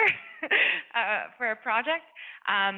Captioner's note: laughs